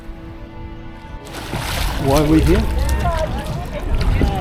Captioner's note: waves lapping